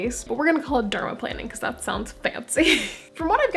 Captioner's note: laugh